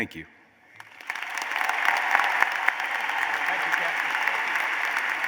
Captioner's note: applause